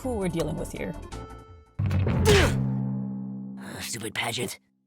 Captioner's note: grunts